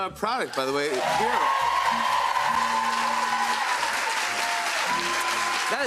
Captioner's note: cheers and applause